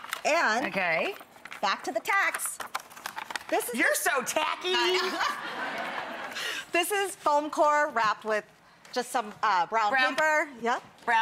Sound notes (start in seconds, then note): 4.9 audience laughs